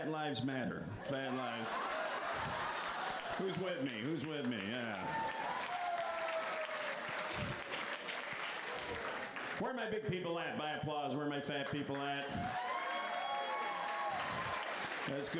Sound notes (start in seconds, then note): 2.4 applause; 14.9 applause